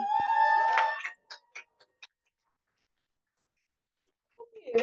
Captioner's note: cheering